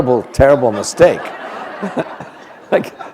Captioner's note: laughter